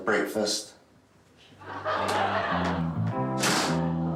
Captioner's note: crowd laughing